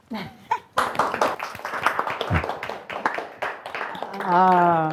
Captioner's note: audience applauding